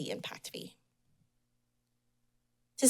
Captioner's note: pause